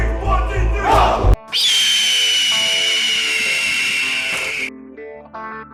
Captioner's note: Red Hawk Screeching